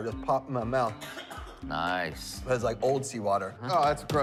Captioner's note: coughing